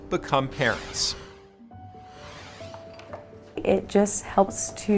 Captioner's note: light instrumental music; swoosh effect